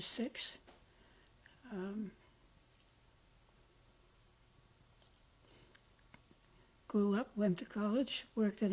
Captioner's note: pauses for 6 seconds